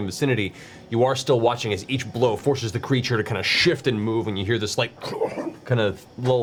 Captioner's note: gurgling sound